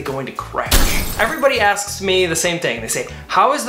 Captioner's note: glass breaking